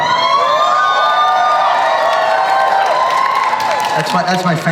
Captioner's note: audience cheers